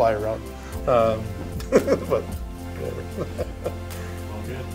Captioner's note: laughs